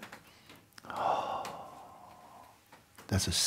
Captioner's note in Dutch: ademt uit